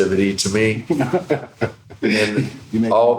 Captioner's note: laughing